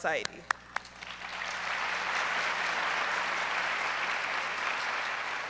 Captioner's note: audience applauds